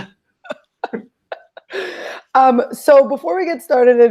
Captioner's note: laughing